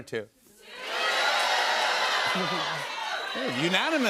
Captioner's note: audience shouting